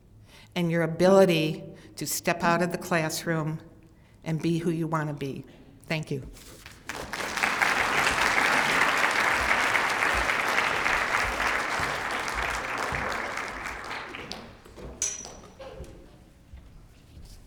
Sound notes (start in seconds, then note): 6.6 applause